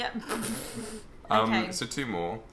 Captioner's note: laughing